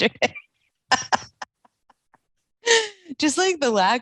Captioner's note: laughing